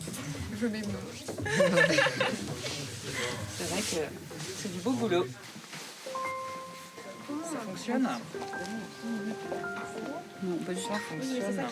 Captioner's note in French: rires